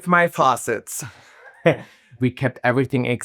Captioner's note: laughing